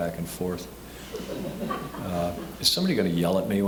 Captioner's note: scattered laughing